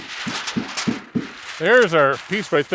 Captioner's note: paper crunching